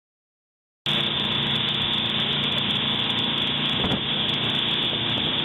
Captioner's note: motor whirring